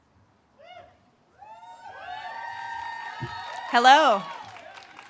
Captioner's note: audience cheers and claps